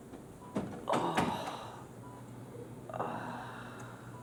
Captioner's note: Monty groans